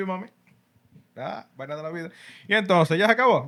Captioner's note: speaking Spanish